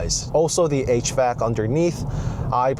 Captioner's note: hvac